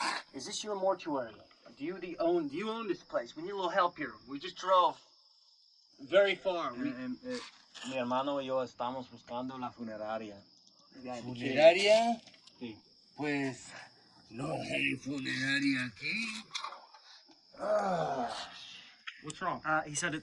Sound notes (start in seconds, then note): 7.8 foreign language; 17.5 groaning